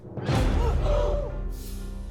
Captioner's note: people gasping